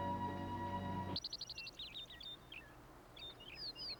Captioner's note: birds tweeting